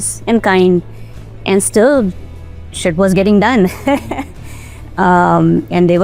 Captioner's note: laughs